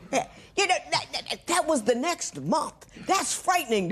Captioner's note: stammers